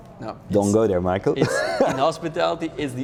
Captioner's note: laughs